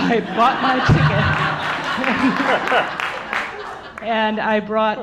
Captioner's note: audience laughing